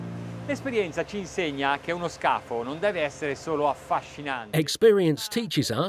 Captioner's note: speaking in foreign language